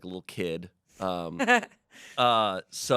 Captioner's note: laughs